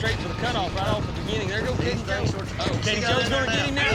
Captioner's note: overlapping chatter